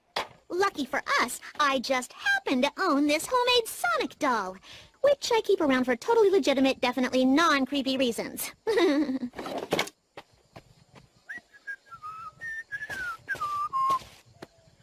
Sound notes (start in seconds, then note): 8.6 nervous chuckle; 11.2 whistling